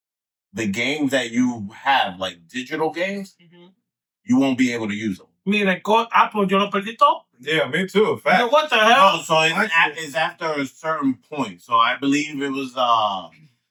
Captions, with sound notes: the game that you have, like digital games, you won't be able to use them. (Speaking In Foreign Language) Yeah, me too, a fact. What the hell? It's after a certain point, so I believe it was,